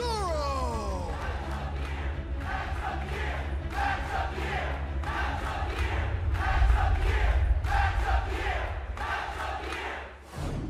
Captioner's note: crowd cheering